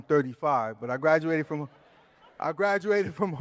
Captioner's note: laughter